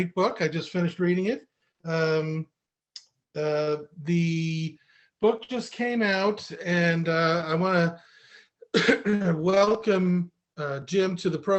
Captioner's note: cough